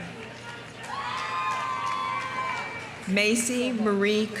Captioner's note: audience applauding; audience cheering